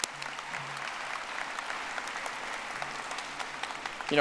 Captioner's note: audience applauding